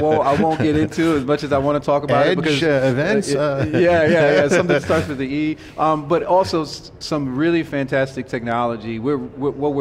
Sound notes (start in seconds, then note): 0.0 laughing